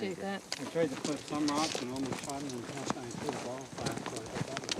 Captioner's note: faintly speaking